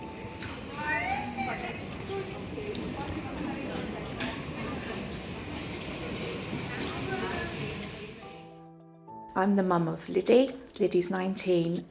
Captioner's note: chatting in airport